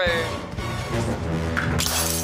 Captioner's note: glass shatters